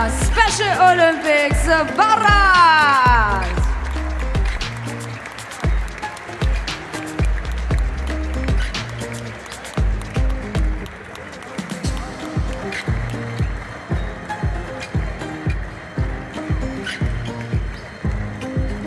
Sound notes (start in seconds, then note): 5.3 applause; 5.3 ♫ Midtempo guitar music ♫